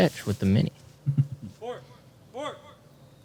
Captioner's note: chuckles